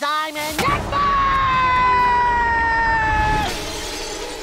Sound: screaming

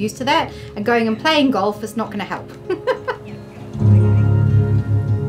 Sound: laughs

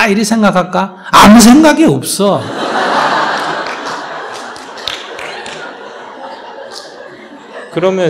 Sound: audience Laughter

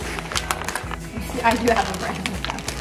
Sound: paper crinkling

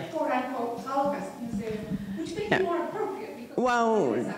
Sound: student mumbling

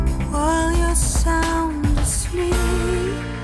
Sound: none

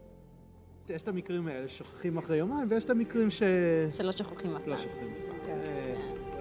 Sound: medics speak foreign language

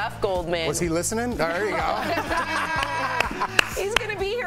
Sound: laughter

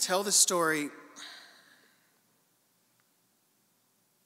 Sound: sighing

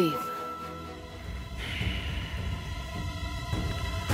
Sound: sighs

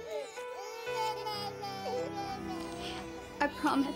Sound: babies crying

